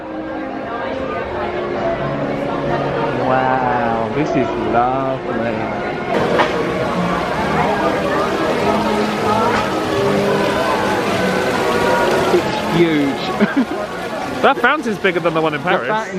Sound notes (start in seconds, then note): 0.1 indistinct chatters; 6.4 water gushing; 9.4 choral music; 13.2 laughing